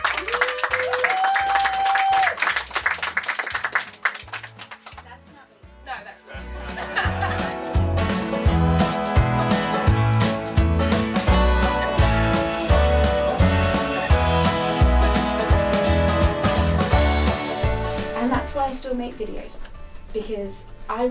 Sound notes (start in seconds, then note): 0.0 audience applauds; 6.3 audience laugh; 8.1 bouncy Christmas music